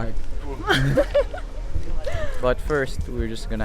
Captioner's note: laughter